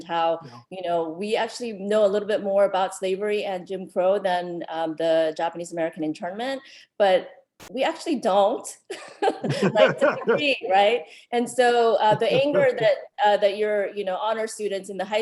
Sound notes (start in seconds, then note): 9.2 chuckles